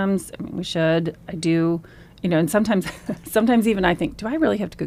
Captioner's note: laughs